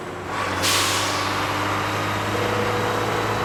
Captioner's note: engine revs